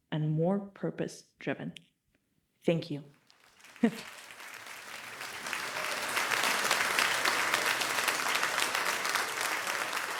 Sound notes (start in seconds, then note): 3.3 crowd applauding